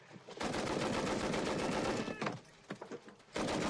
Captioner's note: machine gun fires